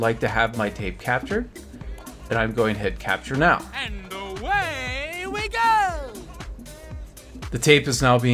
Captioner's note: male voice: and away we go